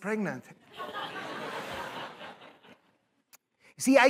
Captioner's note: laughter